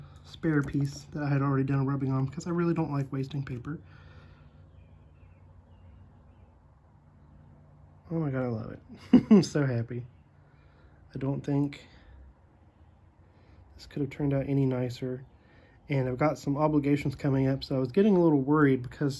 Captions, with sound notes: spare piece that I had already done a rubbing on because I really don't like wasting paper Oh my god, Iove it! [laugh] So happy! I don't think this could have turned out any nicer and I've got some obligations coming up so I was getting a little worried because